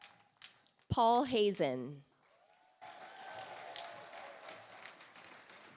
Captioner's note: audience applauds